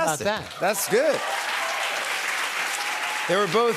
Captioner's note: cheers and applause